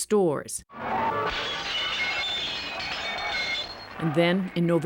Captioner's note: glass shattering